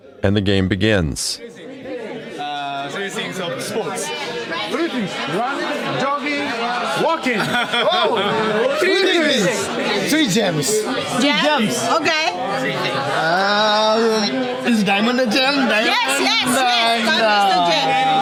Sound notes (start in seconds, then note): 7.2 audience laughing; 11.5 background student chatter